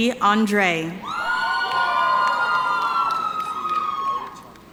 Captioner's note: audience cheering